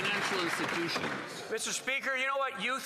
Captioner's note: some Applause